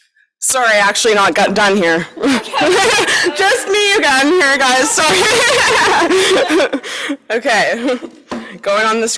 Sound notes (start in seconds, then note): 2.1 laughing